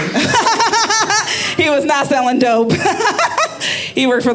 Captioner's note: laughing